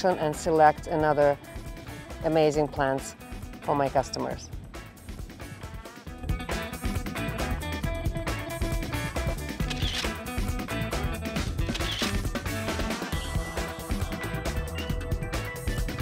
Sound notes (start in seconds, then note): 5.3 upbeat music; 9.6 camera shutter whirring; 11.6 camera shutter whirring; 15.8 upbeat music